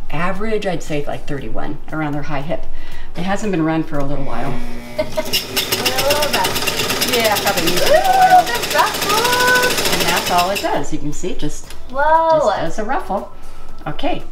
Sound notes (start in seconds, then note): 4.2 machine humming; 7.8 laughing